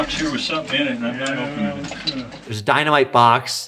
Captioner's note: men chattering